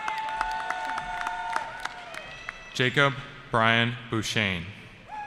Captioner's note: cheering